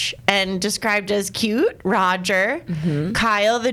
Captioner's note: none